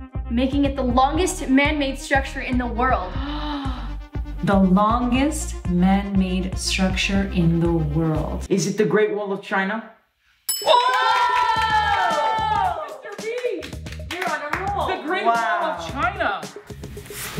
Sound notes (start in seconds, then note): 10.5 bell dings; 10.8 clapping